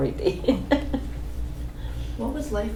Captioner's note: laughs